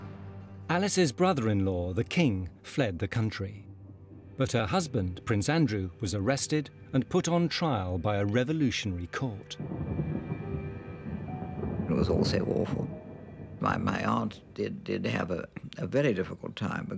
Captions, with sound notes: Alice's brother-in-law, the King, fled the country, but her husband Prince Andrew was arrested and put on trial by a revolutionary court. (dramatic music) (thunder rumbling) - It was all so awful. My aunt did have a very difficult time